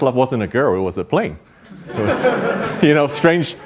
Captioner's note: audience laughs